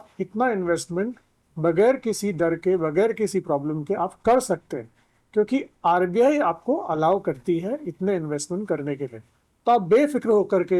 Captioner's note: speaking in foreign language